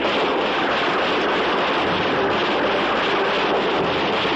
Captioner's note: blast